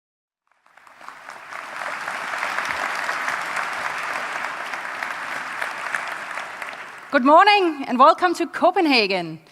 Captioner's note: applause